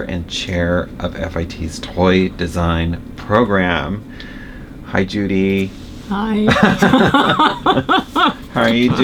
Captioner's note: laughter